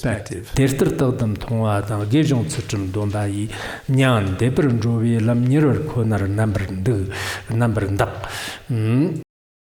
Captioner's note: giving oral transmission in Tibetan